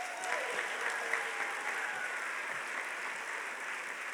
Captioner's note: audience applauding